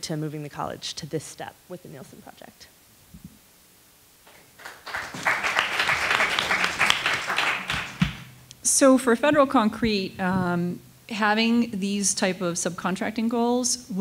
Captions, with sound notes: to moving the college to this step with the Neilson project. (attendees applauding) - So for Federal Concrete, having these type of subcontracting goals